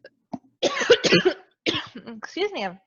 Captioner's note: coughing